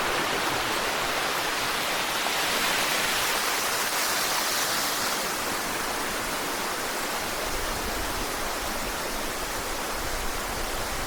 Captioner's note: water splashing